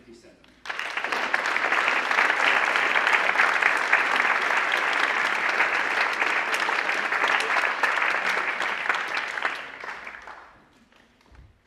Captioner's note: applause